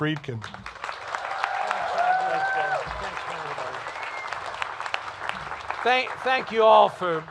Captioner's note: cheers and applause